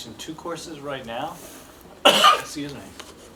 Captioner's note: coughs